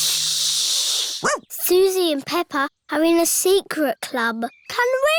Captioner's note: barks